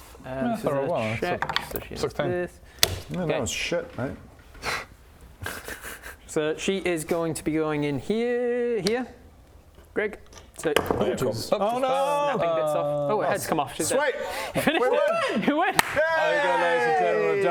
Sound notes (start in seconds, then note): 5.4 sad giggle